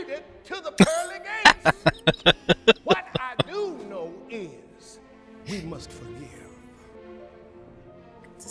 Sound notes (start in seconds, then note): 0.8 laughing